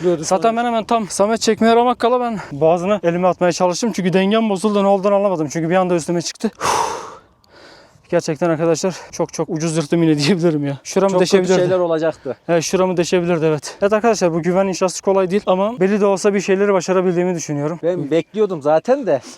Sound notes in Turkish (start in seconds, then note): 6.6 Derin nefes alıyor